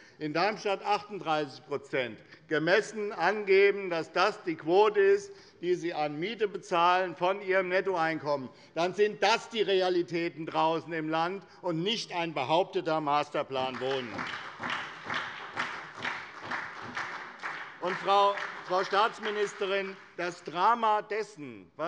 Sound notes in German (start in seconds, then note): 13.5 Beifall bei der SPD